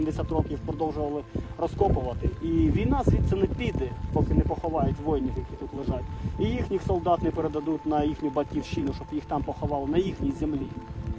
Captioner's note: russian